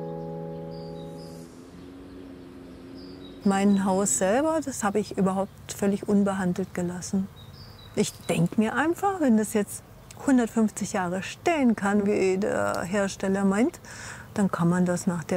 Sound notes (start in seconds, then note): 0.0 lawn mower hums; 2.1 birds chirping